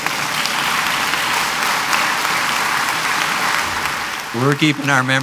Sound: applause

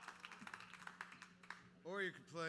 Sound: cheering

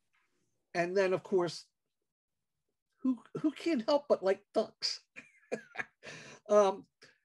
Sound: haha

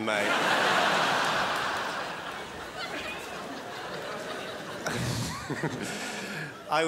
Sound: crowd laughs

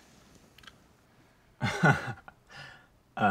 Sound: chuckles

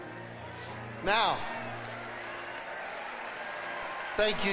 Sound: audience cheering

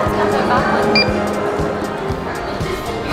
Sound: beeping; people chattering

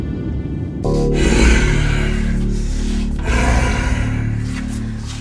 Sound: zombie growling

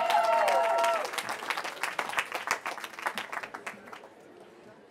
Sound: cheering

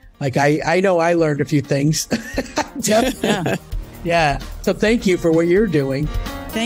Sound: laughs

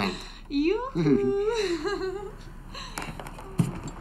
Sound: giggles

